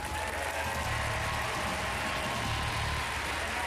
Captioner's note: applause